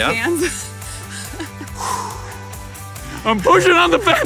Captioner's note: both panting